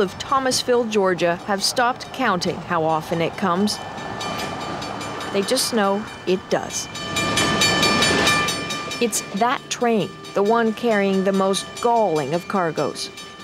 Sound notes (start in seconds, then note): 7.6 train bell tolls